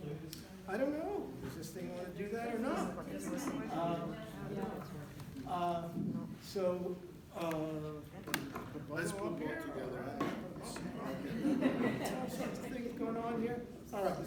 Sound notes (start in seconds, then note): 2.6 chatter; 11.0 laughter